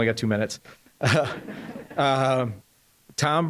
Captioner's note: audience laughing